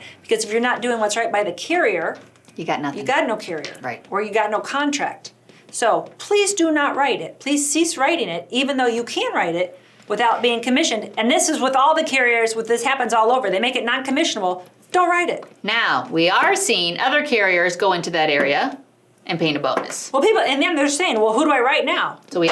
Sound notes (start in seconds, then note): 19.5 hand hitting table